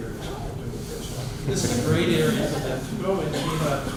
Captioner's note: laughter